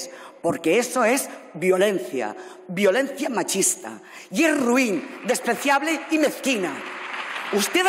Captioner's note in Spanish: Aplausos